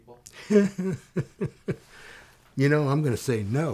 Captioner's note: laughing